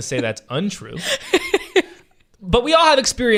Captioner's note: laughing